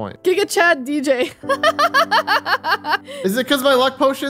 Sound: chuckles

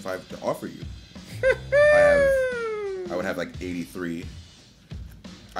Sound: laugh

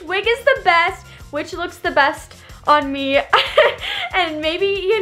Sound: laughing

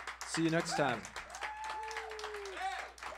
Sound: applause

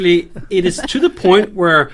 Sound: laughing

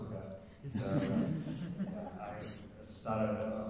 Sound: audience laughing

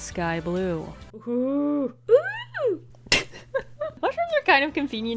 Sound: laughs

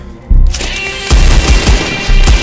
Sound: gunshots

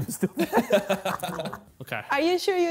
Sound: laughing

